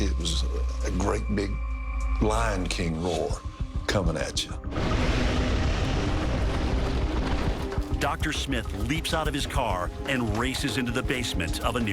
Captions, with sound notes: it was a great big lion king roar coming at you. (distorted roar) - Dr. Smith leaps out of his car and races into the basement of a nearby business.